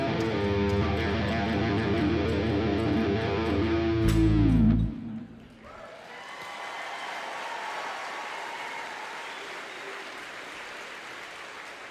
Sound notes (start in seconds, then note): 5.6 audience applauding and cheering